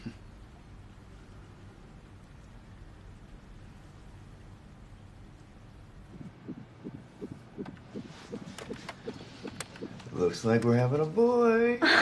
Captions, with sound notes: (Heart beating on monitor) Looks like we're having a boy.